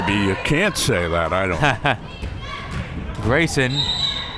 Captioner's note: laughing